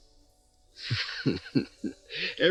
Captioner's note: Cyrus Laughing